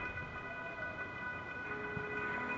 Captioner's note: coyote howl